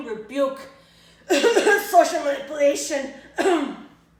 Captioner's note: cough